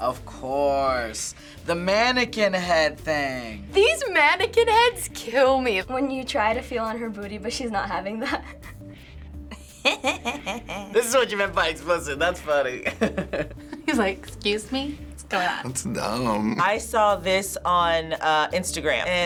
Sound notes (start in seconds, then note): 9.5 chuckles; 13.3 laughs